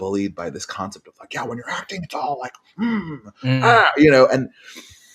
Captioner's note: aggressive noises